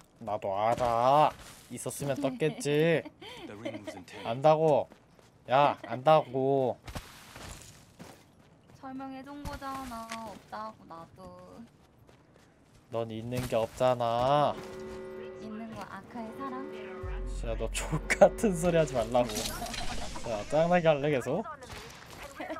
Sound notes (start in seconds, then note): 2.7 laughs; 22.2 laughs